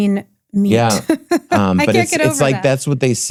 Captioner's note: laughs loudly